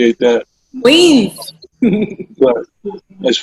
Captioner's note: laughs